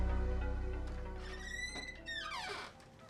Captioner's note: door squeaking loudly; light piano music